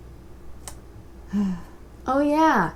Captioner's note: sigh